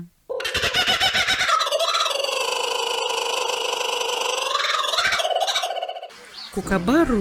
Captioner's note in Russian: звучит хохот кукабарры